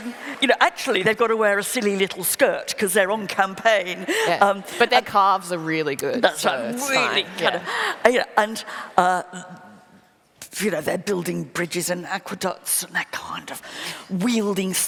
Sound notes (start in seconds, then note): 6.8 laughter